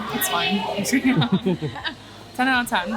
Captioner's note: laughs